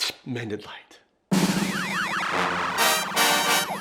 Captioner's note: logo explosion; upbeat music